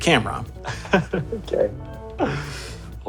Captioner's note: laughs